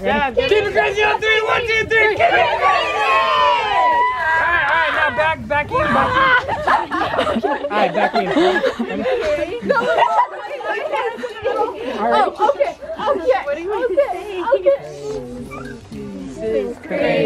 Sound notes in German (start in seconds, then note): 1.0 aufgeregt reden; 2.3 aufgeregt schreien